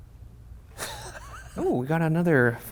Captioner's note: giggling